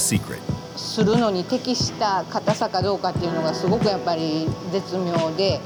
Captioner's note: speaking Japanese